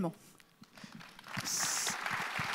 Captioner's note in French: Applaudissements